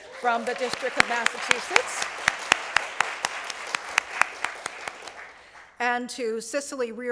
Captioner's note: applause